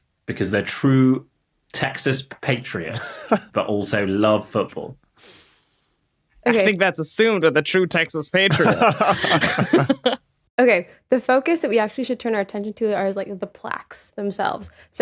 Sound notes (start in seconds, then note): 2.9 chuckles; 8.4 laugh